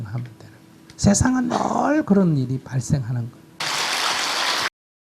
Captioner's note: applause